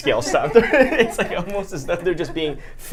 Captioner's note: laughter